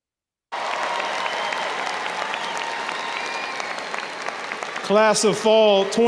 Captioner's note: audience cheers and applauds